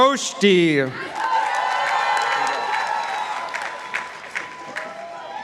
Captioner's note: participants applauding